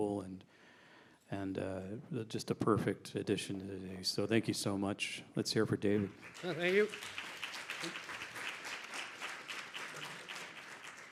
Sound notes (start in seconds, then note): 6.0 audience applauding